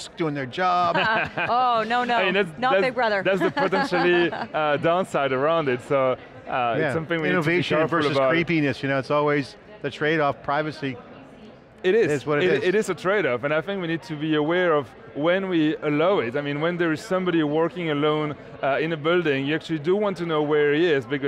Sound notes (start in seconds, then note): 0.9 laughing